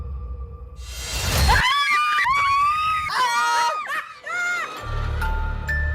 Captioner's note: ladies screaming; suspense music